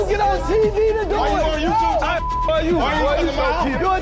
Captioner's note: beep